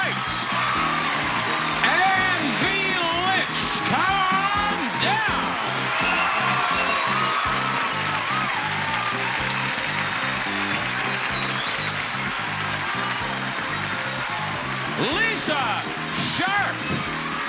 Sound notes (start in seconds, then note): 0.1 audience applauding; 0.1 lively music; 5.8 audience applauding; 5.8 lively music